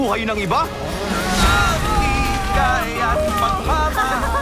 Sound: screaming; ghost laughs

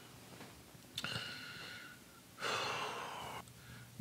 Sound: sighs

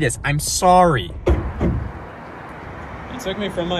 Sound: traffic whirs

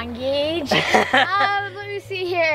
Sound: laughing

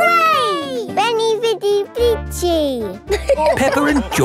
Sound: all laughing

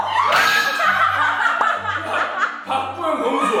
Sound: SCREAMS with joy

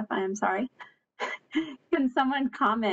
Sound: laughs

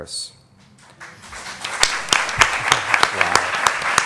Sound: audience clapping

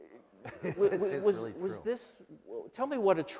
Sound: laughter

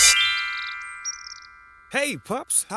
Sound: birds chirping; chimes jingling

